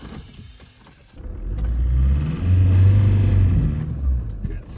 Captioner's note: engine working